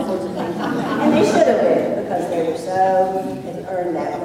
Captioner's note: laughter